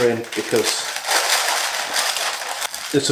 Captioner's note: crunkle crinkle